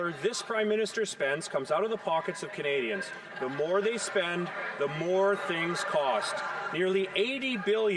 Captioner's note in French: voix de l'interprète